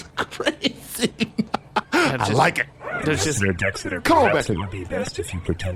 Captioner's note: chuckles